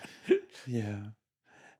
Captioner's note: laughing